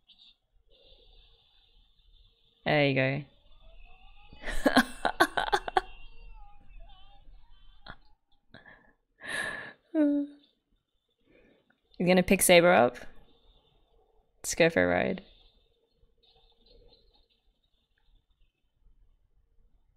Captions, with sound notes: There you go. [laughs] He gonna pick Saber up? Let's go for a ride.